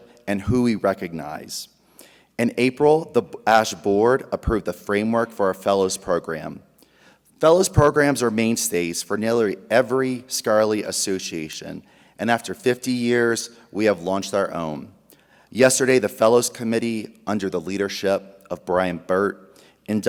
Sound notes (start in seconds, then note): none